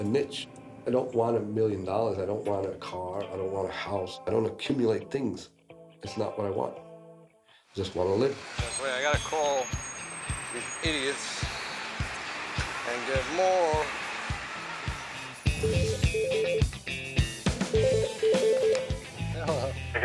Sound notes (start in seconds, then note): 15.6 telephone rings; 17.4 ring